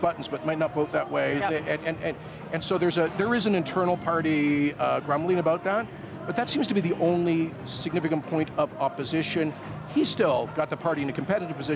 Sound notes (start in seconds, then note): none